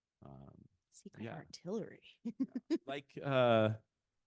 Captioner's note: chuckling